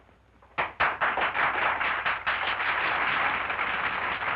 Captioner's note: women applauding